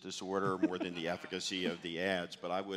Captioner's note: laughs